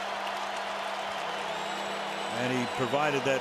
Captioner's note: cheering